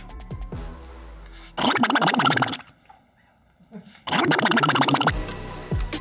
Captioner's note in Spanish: Sonidos del Pato Donald